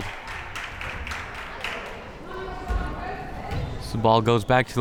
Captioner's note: crowd members clapping